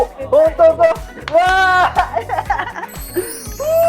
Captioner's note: applause